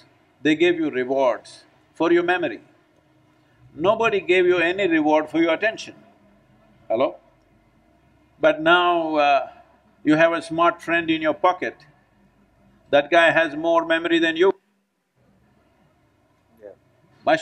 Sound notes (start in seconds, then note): none